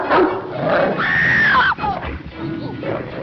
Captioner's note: cathy screams